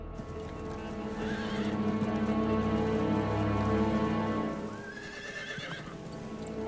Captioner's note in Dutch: dramatische muziek gaat door; paarden hinniken